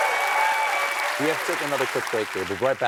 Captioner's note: applause